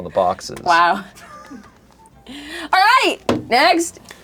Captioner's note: laughs